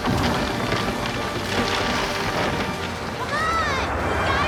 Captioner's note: tree cracks